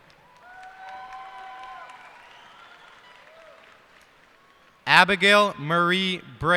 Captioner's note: cheers and applause